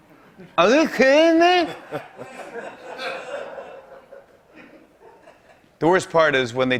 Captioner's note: laughter